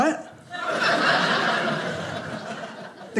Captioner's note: audience laughing